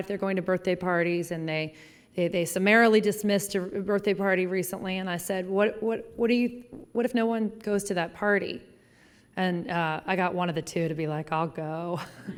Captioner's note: laughing